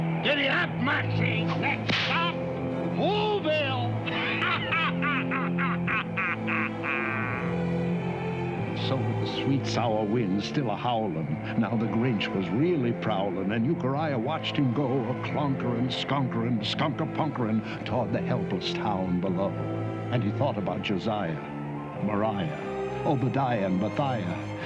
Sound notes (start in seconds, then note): 3.9 grinch laughing maniacally